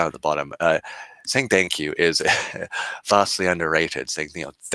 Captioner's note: laughing